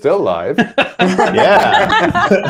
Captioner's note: laughter